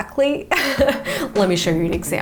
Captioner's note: chuckles